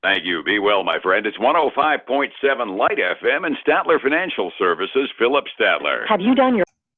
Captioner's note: radio